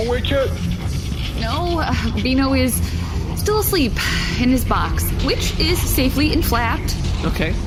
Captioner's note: nervous